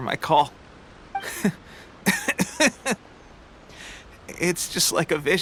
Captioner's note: cough